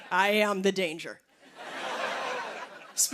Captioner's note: laughter